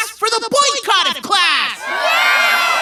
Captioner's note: cheering